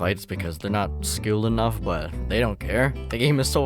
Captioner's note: none